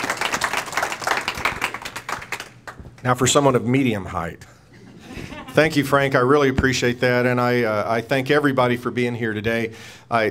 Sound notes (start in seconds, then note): 4.8 laughing